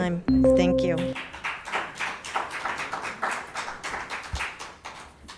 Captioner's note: crowd applauding